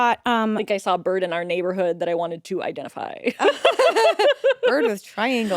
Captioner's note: laughs